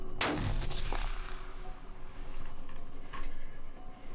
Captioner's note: gunshot firing